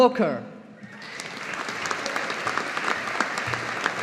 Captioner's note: audience applauding